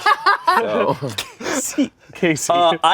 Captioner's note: laughs